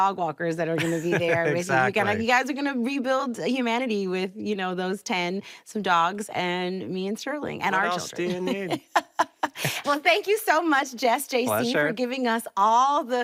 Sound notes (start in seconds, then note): 0.8 laughs; 7.8 both laugh